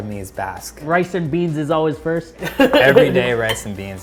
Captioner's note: laughs